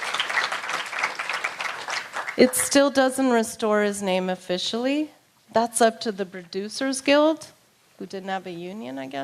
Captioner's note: applause